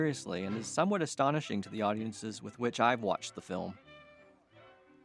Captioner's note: people chattering